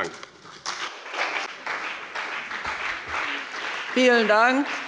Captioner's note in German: Beifall bei dem BÜNDNIS 90/DIE GRÜNEN und der CDU